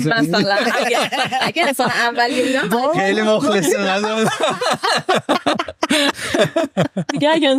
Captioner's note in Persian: خنده